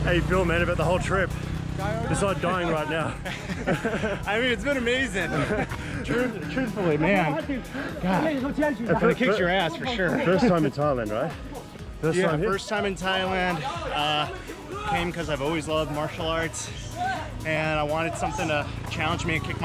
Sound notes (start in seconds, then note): 3.0 laughter